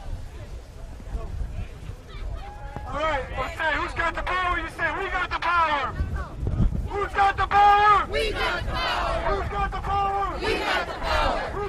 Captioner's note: chanting